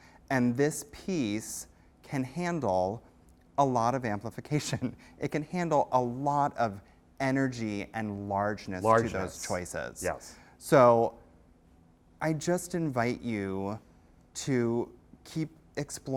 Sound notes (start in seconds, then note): 10.2 voiceover